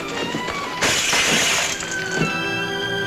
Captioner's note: tense music; bottle shatters; dramatic music